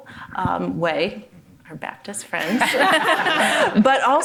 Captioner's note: all laughing